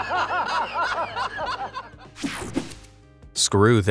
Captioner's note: men laugh